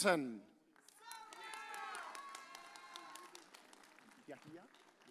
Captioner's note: audience cheers